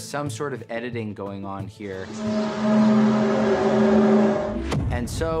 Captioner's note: groaning sound